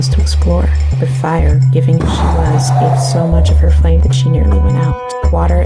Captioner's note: boom